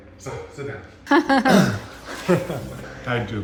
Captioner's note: laughs